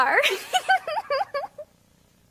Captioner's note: giggles